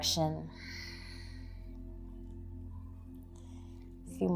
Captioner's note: exhaling